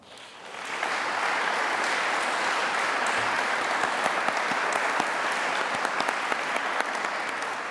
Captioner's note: applause